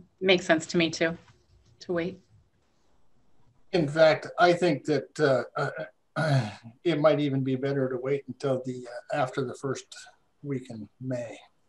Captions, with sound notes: - Makes sense to me too, to wait. - In fact, I think that (clears throat) it might even be better to wait until after the first weekend of May